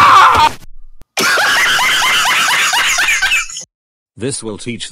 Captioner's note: Laughter